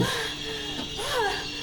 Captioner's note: lady breathing heavily